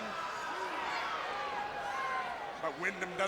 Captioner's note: crowd chattering